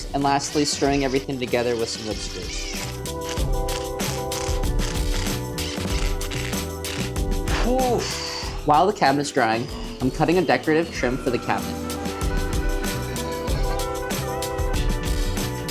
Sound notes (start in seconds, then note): 4.0 drill buzzing; 4.0 mellow music